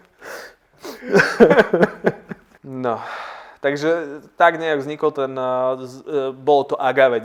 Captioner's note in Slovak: Smiech